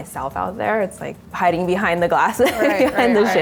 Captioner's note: laughs